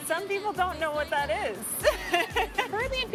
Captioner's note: laughs